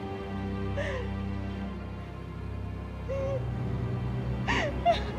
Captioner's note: Maggie crying